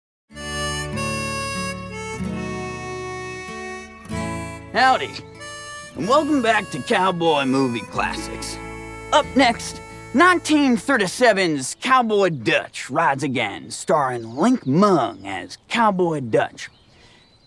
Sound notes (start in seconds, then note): 4.8 western accent